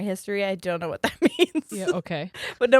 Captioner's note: giggles